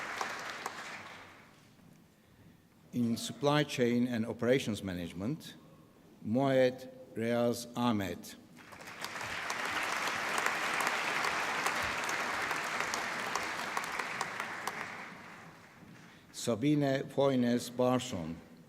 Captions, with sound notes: In Supply Chain and Operations Management... Moeed Riaz Ahmed. (APPLAUSE) Sabine Høines Baardsen.